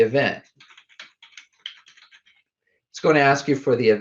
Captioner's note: keyboard typing